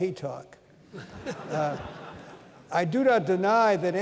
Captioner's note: laughter